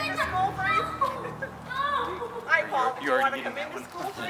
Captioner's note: girl yelling